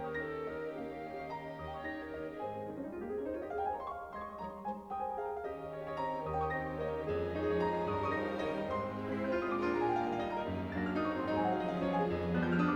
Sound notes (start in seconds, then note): none